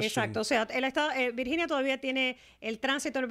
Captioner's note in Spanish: Hablando ingl\s